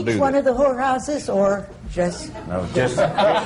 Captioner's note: laughter